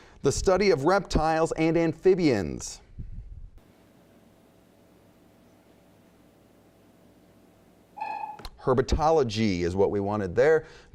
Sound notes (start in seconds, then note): 8.0 dinging